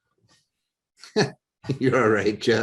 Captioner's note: laughs